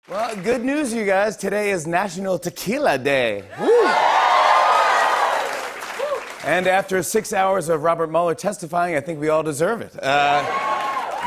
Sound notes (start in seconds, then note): 3.4 cheers and applause